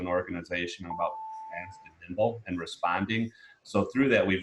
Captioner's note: beep